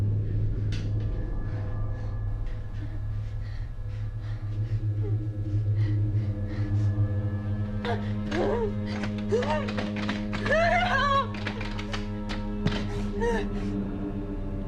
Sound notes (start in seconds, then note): 7.8 Maggie moaning; 11.7 dramatic music